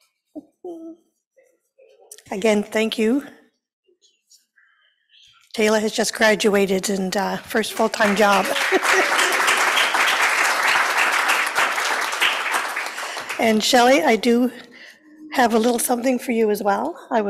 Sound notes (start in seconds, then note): 7.7 applause